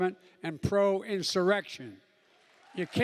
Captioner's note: cheering and applause